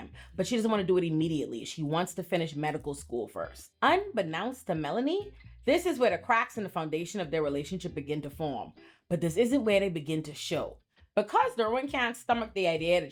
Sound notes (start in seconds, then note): none